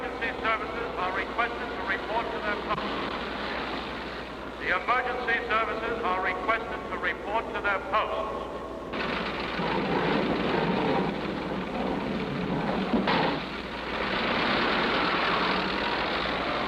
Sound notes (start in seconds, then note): 8.9 doors opening; 13.3 jeep engines running